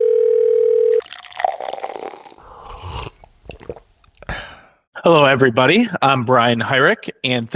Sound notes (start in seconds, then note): 0.0 phone ringing; 0.9 liquid pours; 2.8 person sipping and swallowing